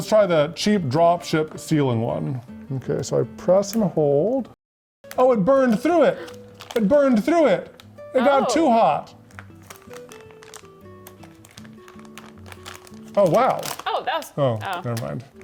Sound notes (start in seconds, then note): 9.7 bag rustling; 11.9 light music